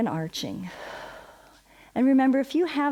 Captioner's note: exhales